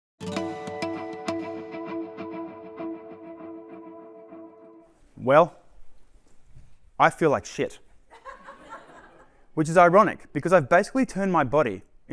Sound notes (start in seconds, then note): 0.2 upbeat music playing; 8.1 laughter